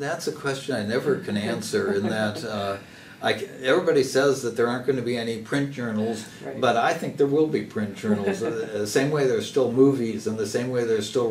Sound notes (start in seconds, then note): 1.3 laugh; 8.0 laugh